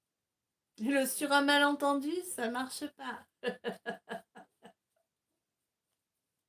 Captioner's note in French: rires